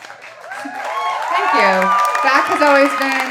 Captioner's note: audience applauding and cheering